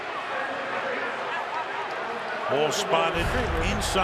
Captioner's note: announcer on pa